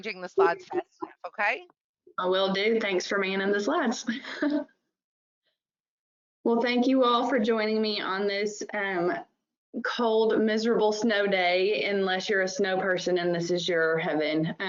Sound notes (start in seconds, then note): 4.1 chuckles